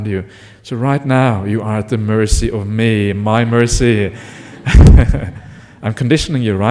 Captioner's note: laughter